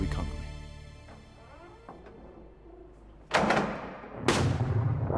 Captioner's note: doors creak shut, close resoundingly